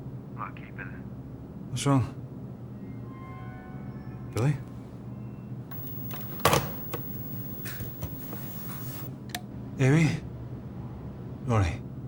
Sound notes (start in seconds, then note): 2.8 ominous music; 5.7 phone clicks